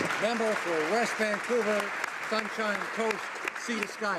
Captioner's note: applause